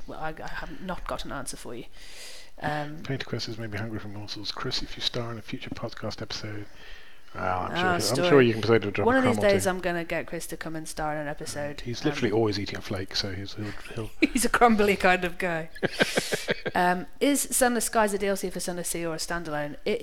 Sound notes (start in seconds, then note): 15.7 chuckles; 15.7 laughs